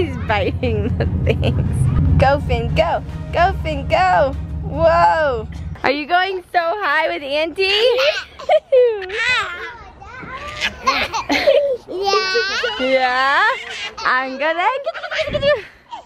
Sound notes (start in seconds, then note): 8.1 giggles